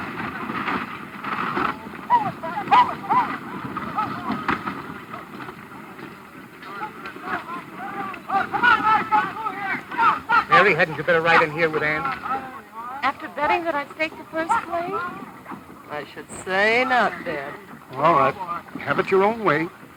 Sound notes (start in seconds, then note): 4.0 men yelling